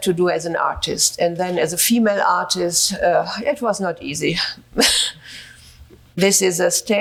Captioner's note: chuckles